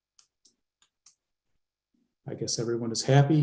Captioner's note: typing